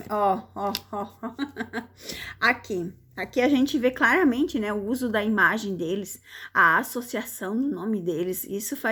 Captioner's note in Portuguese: risadas